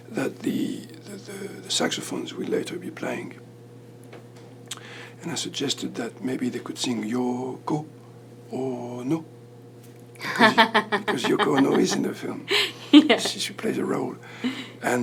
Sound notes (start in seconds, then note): 10.2 laughs